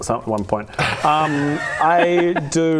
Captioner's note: laughs